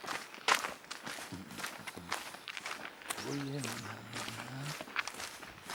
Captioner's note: Mooji humming